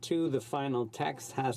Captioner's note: speaking French